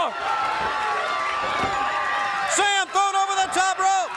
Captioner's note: crowd cheering